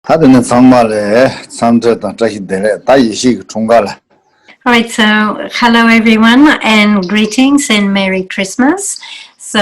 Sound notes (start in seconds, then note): 0.0 speaking in foreign language